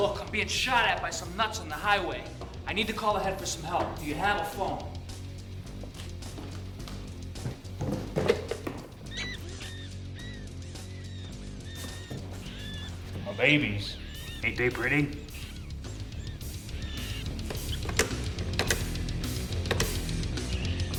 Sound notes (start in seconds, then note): 8.8 rodents squaking; 17.8 heavy metal music